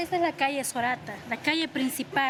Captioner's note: none